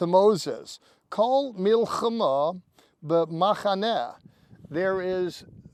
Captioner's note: speaking in Hebrew